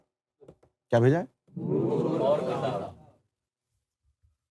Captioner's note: audience repeats